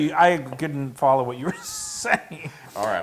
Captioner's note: laugh